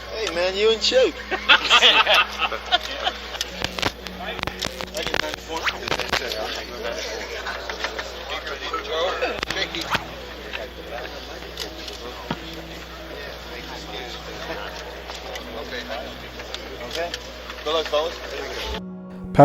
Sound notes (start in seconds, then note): 1.1 loud laughter; 6.0 speaks faintly